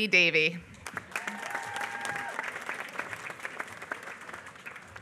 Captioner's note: applause